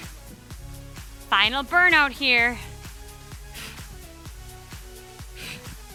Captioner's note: exhales deeply; breathing deeply